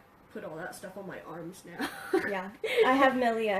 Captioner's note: laughs